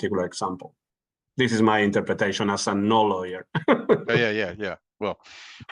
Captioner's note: laughing